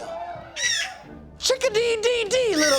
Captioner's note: bird squawks